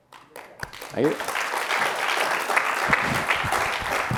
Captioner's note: applause